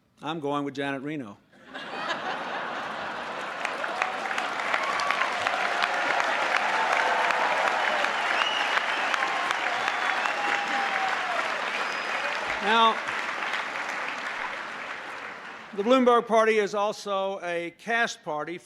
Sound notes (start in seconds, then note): 4.8 laughter; 6.5 applause